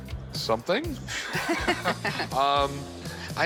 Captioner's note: laughter